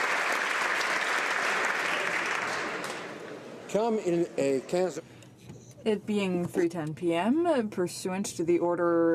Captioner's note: applause